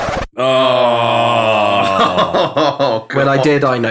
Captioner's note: moans of mental anguish